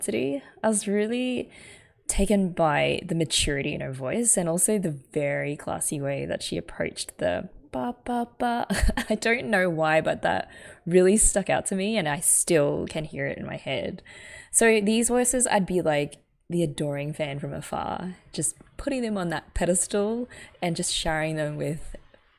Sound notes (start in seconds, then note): 8.8 laughs